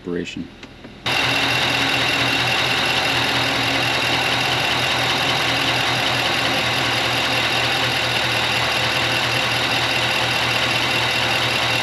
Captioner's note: engine running sound